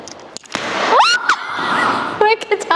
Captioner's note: screams